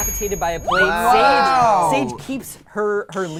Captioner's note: overlapping chattering